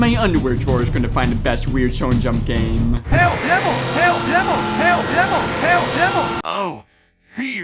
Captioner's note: satanic ritual mumbling